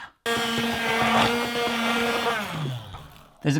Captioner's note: whirring